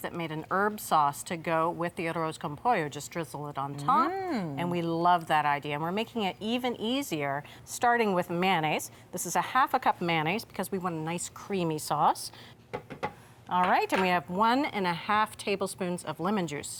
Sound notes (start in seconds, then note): 12.7 spatula tapping